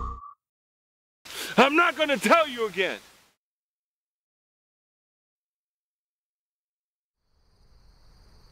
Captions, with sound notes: Morales' voice [ Staticy ]: I'm not going to tell you again.